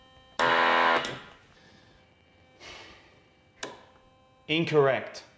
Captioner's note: machine blaring